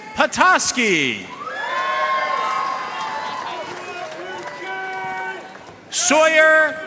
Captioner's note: audience cheering and applauding